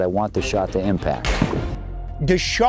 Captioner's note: upbeat music; firearm cracks